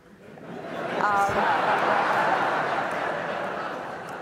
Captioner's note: audience laughs